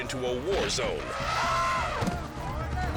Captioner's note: attacking elephant trumpets; body thuds